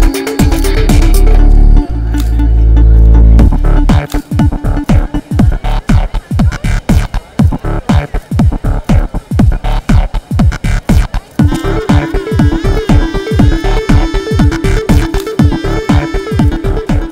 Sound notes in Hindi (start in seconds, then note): none